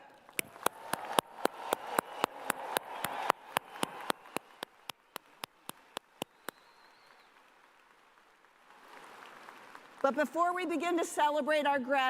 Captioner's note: cheers and applause